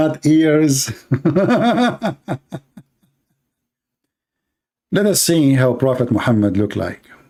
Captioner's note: Ketawa